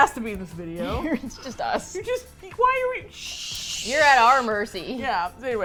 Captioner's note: laughs; stammering